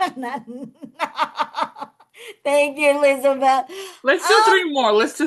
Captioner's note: laughs